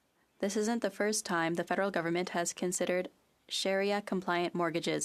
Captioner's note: speaking French